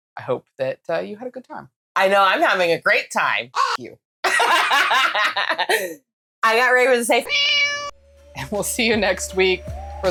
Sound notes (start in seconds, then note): 3.5 caw; 7.2 meow